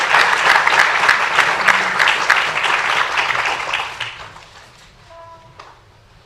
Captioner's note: applause